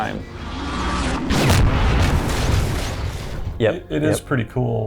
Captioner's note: intense crashing; loud shot